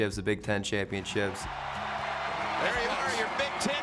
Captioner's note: crowd cheers